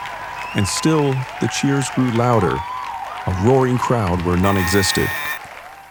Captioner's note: static